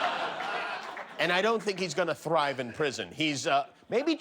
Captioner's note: laughter